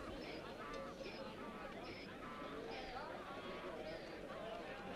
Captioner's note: townsfolk chattering